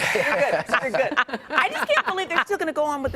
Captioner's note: laughing